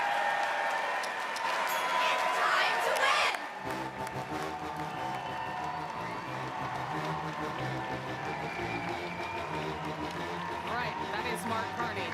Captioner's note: cheering and Applause